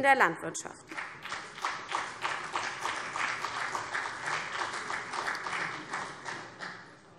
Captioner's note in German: Beifall CDU und BÜNDNIS 90/DIE GRÜNEN